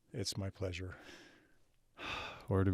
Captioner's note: sighs